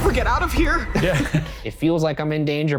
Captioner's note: laughing